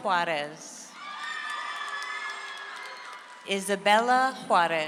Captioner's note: audience applauds